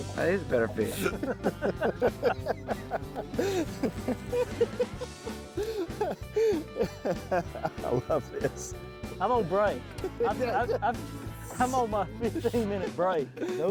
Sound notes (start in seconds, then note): 0.2 group laughs